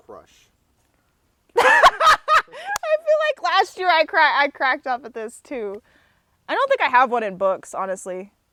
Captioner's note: laughs